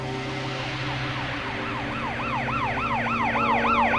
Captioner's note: police car siren